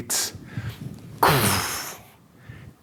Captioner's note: imitates axe blow